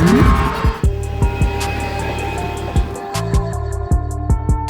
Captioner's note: engine hums; soft music